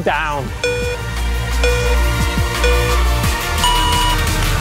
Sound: starting bleeps; intense music

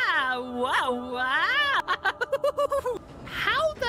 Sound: excited Laughter; reversed Laughter

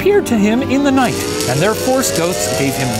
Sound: crackling; zapping

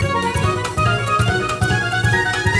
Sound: none

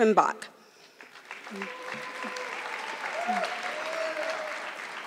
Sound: audience clapping

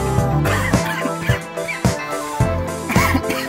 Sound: coughing; more coughing

